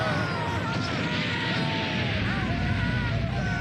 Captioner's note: none